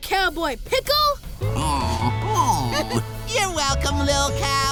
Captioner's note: chuckling; happy cooing